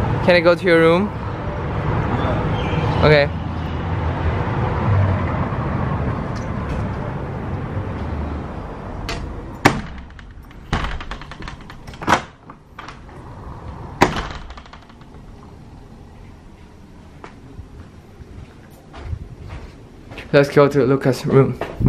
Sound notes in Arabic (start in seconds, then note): 9.0 يغلق الباب